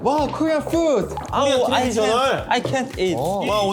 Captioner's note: drooling